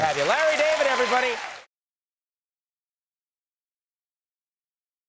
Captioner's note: audience cheers